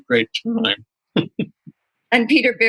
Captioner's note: laughter